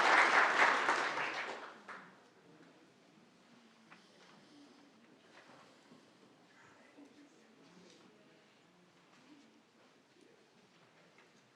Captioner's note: applause